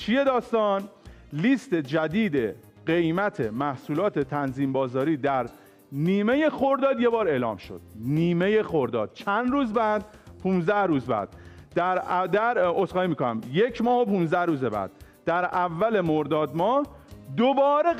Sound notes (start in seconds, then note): none